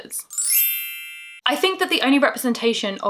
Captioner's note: magical bell tinkling